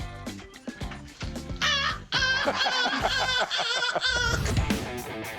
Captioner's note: laughing